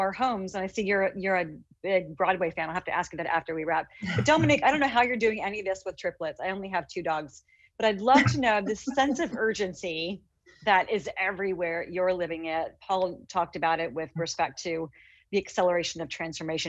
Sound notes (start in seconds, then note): 4.0 giggles; 8.2 laughs